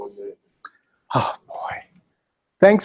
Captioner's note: sigh